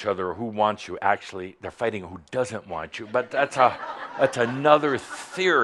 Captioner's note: laughter